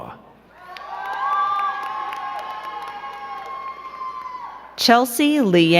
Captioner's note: crowd cheering and clapping